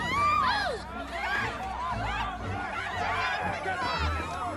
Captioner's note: shouting